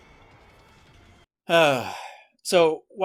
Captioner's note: sigh